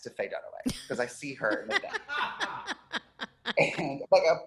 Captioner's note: laughing